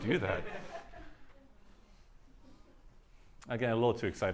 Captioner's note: laughter